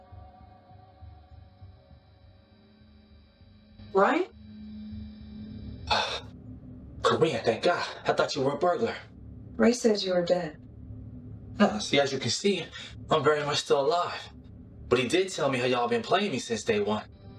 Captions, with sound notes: Bryan? [Bryan gasps] Corrine thank god I thought you were a burglar. Ray said you were dead. No see as you can see, I'm very much still alive. But he did tell me that y'all been playing since day one.